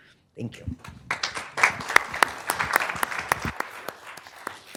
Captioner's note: audience clapping